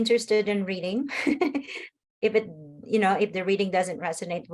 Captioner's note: laughs